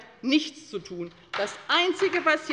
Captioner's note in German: Beifall bei der LINKEN